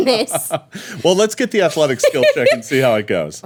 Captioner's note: laughing